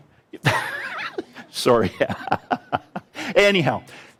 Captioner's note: laughs